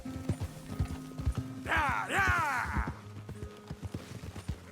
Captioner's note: shouts to the sheep